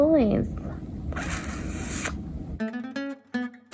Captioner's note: smacks lips; joyful music